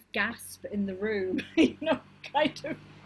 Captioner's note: laughs